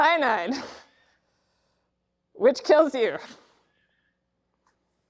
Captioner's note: laughs